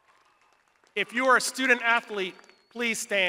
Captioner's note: crowd applauding